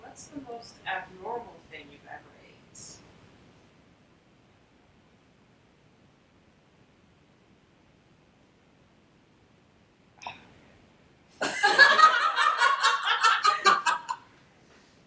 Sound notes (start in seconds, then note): 11.4 background laughing